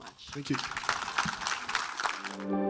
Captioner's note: audience applauds; whimsical music begins